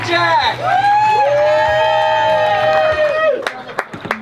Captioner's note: cheering